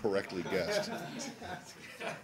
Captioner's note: laughter